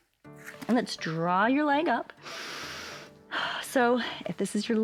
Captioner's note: inhales and exhales